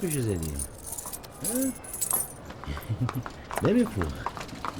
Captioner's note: coins rustling